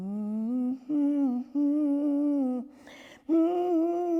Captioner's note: woman humming